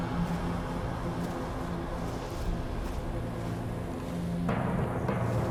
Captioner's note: footsteps